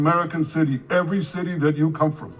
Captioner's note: speaking in a foreign language